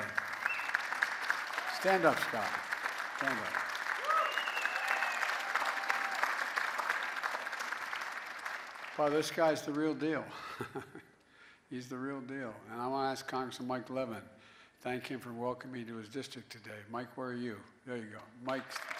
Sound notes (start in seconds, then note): 7.4 cheering and applause